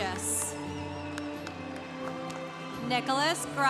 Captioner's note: congregation cheering